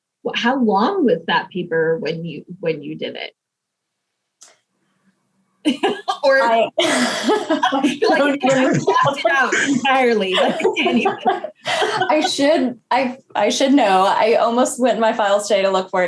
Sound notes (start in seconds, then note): 5.9 chuckles; 11.2 chuckles